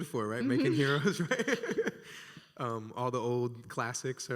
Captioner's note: laughs